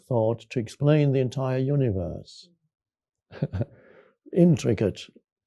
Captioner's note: chuckles